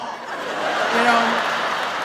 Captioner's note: audience laughs